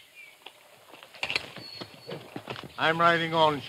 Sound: hooves pattering

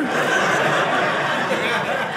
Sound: audience laughing

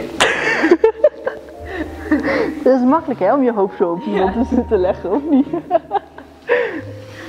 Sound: laughing

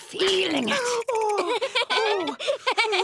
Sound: laughing

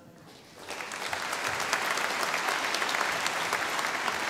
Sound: audience applauding

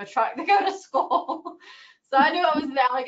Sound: laughs

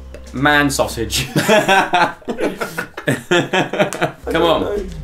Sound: laughter

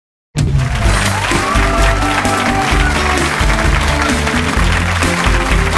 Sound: audience applauding; bright music

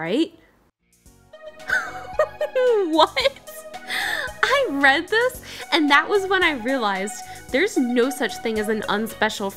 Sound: laughs

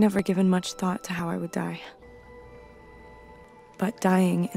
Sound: nature sounds

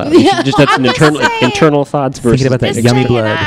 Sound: laughing

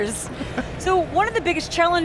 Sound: laughs

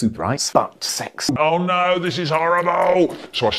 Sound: surprise Mark sound

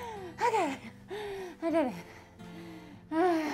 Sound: sighing

